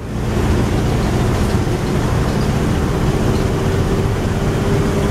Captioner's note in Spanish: Sonido ambiente de motor